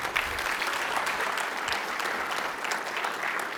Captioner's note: applause